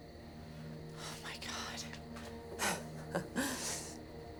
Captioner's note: laughs; ominous music playing